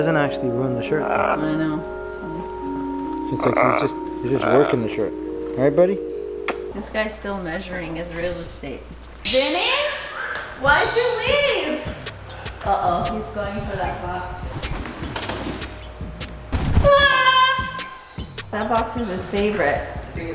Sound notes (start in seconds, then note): 6.4 kiss; 14.1 wings flapping; 17.1 yelling